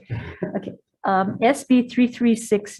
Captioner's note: man laughs